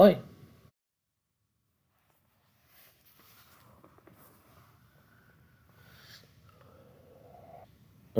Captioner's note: no Speech Detected